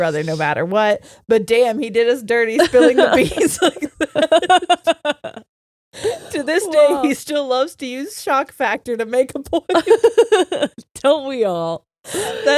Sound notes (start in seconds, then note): 2.6 laughing